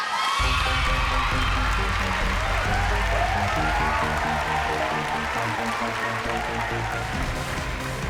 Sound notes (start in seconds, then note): 0.0 cheering, applause